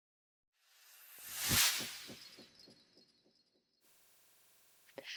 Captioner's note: sound effect